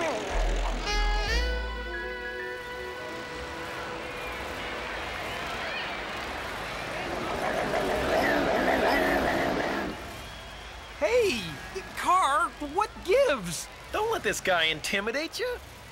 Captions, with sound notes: (ENGINES REVVING) (CAR SNARLING) Hey! Car, what gives? Don't let this guy intimidate you.